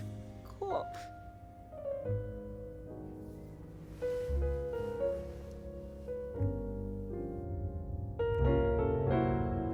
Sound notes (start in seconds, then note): 1.2 sobbing